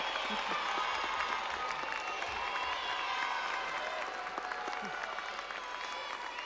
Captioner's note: audience applauding; audience cheering